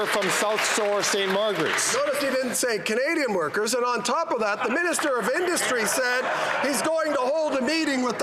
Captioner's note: some Applause